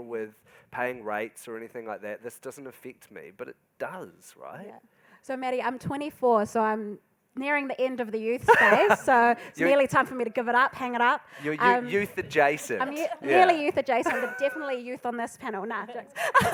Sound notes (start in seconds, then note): 8.5 laughing